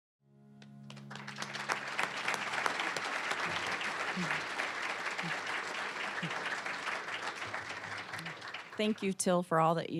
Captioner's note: applause